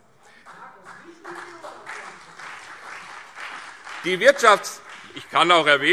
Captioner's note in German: Beifall CDU und BÜNDNIS 90/DIE GRÜNEN - Zurufe